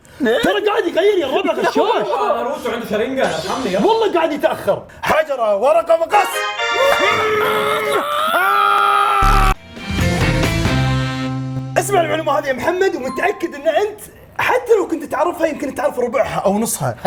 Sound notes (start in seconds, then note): 6.8 screaming